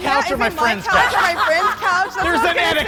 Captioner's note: laughing